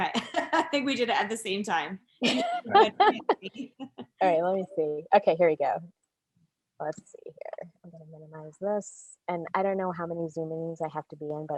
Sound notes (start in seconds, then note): 2.3 laughs; 2.4 laughs loudly